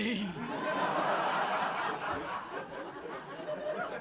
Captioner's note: crowd laughing